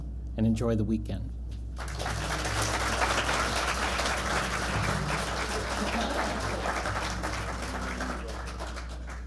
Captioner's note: applause